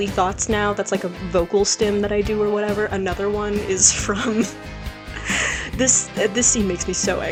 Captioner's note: breathes